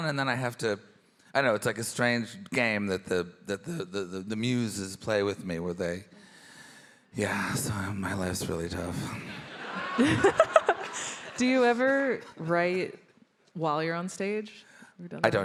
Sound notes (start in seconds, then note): 9.4 all laughing